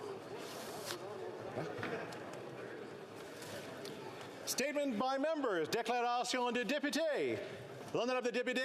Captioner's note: speaking French